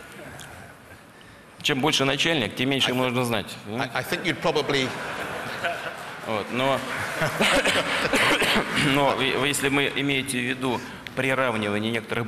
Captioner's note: laughter